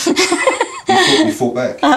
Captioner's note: laughing